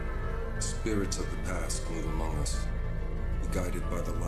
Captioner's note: none